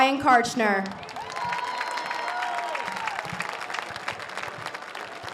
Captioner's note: audience cheers